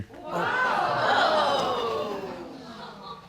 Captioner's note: audience exclaiming